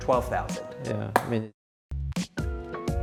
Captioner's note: smacking